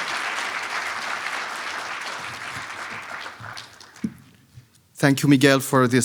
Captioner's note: audience applauding